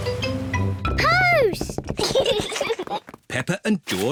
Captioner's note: both giggle